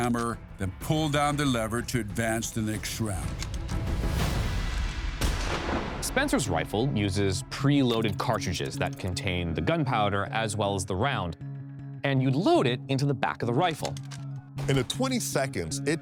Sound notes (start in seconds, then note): 3.6 intense music; 4.2 gunshot fires